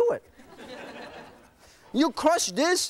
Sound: laughing

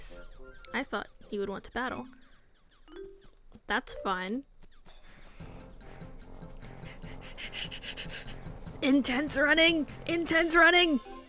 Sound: heavy breathing

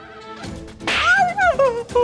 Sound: slapping

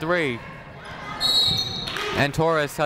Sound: whistle tweeting

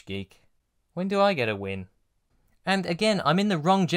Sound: quietly

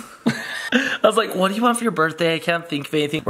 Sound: laughs

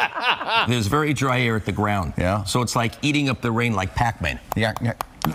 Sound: laughter

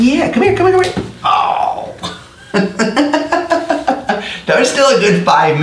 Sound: laughs

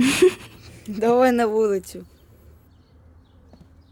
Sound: all laughing; in normal voice

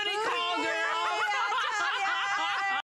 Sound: laughter

